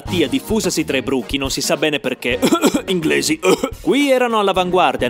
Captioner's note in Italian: cof cof inglesi cof cof